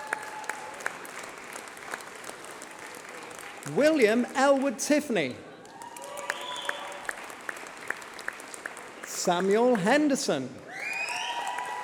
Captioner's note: applause